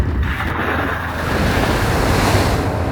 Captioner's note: splash!